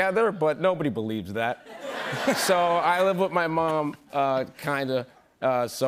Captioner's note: laughter